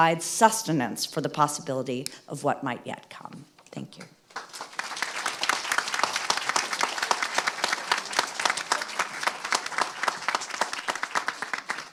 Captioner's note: applause